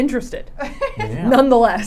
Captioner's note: laughing